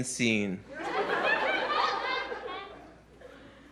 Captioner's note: laughter